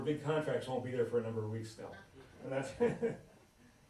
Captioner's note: laughs